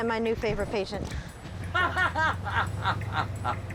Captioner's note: man laughing